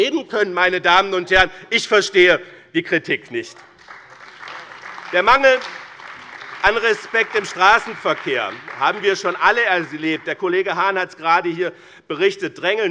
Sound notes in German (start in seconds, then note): 5.0 Beifall bei dem BÜNDNIS 90/DIE GRÜNEN und der CDU